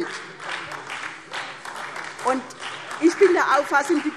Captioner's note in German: Beifall SPD